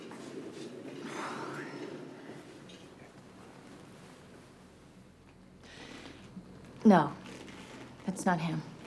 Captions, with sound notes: (Rose sighs) No, that's not him.